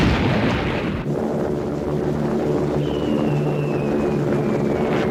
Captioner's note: aircraft buzzing